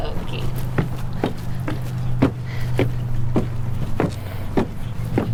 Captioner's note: footsteps thudding